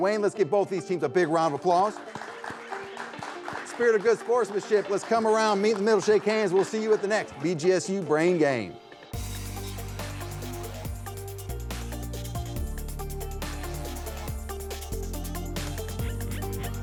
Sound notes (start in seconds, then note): 1.4 audience clapping; 9.1 energetic techno music